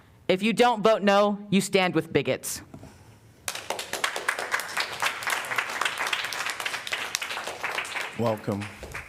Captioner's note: applause